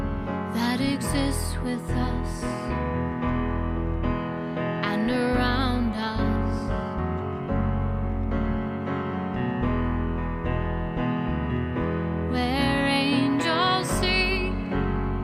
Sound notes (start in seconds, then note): none